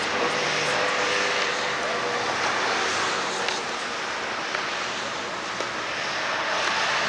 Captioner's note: loud car sounds